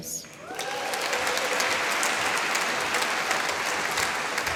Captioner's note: applause